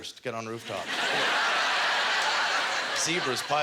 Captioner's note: audience laughter